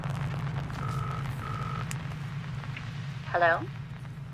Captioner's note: phone ringing